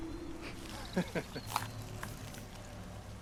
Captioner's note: laughter